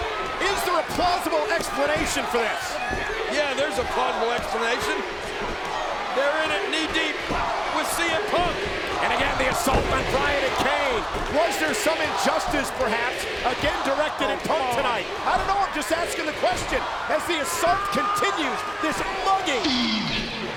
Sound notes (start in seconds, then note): 19.3 applause